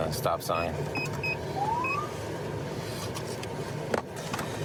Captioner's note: siren chirps